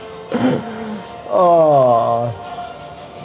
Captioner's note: laughs